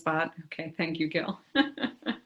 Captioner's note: laughs